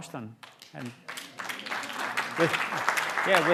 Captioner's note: applause